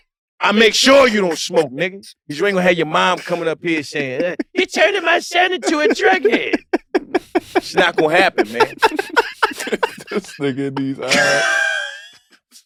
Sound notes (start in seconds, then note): 8.4 laugh